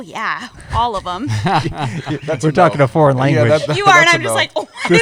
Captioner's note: laughter